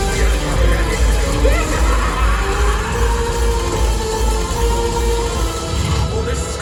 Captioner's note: laughing